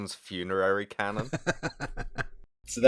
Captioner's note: laughter